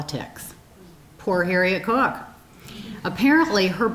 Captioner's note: audience chuckling